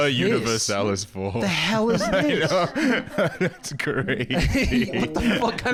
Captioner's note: laughing